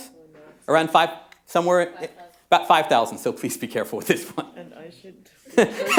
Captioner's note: laughter